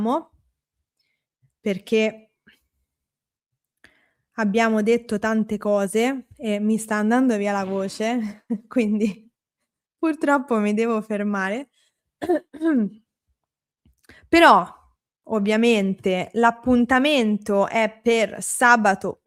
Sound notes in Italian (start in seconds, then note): 12.2 schiarire la voce